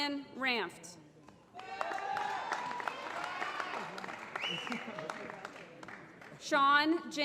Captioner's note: applause